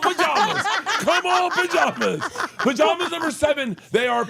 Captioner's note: laugh